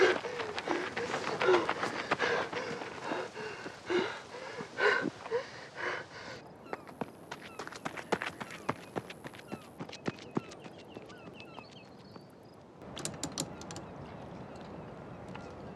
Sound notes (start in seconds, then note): 6.4 seagulls cawing